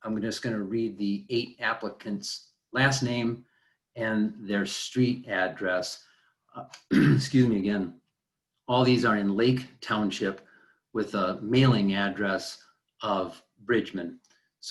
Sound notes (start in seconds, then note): 6.7 clears throat